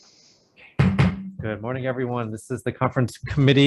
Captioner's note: gavel banging